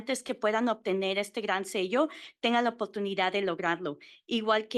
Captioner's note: Spanish